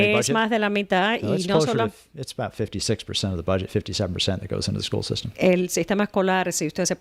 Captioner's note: Hablando ingl\s